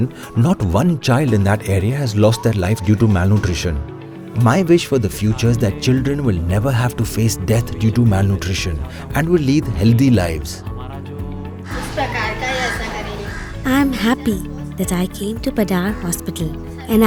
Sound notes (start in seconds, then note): 11.6 is speaking in foreign language